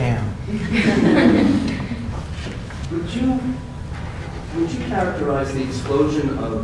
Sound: laugh

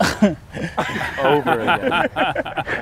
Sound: laughter

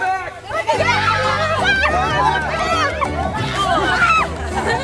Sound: pandemonium

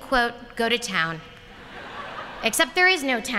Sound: laughter

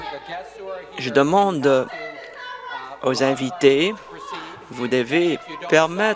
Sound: woman shouting

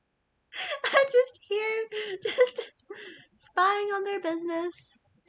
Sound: laughs

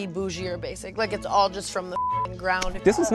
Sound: beep

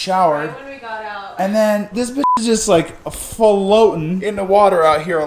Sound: beep

